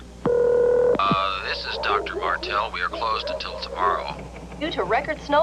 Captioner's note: sfx: dogs barking in the background